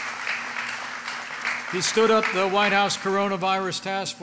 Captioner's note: applause